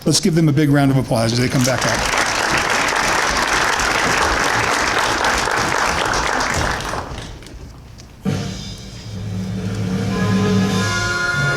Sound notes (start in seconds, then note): 2.9 applause; 8.2 drumroll